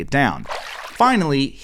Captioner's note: water splashing